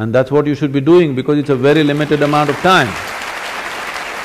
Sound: applause; 掌聲

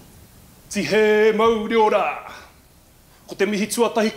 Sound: speaks maori

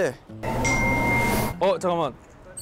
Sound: ring

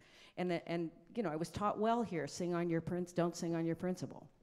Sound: none

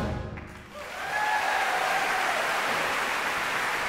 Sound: applause

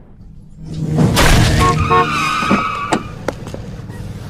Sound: splat; car honks, tires squeal

